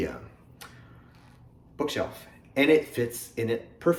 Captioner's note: deep breath